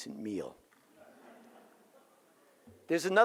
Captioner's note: audience laughs